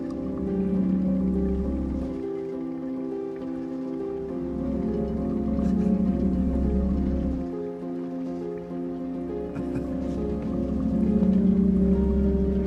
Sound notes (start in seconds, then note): 0.0 pipes groan; 9.5 Norman chuckles